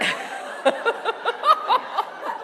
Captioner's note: laughter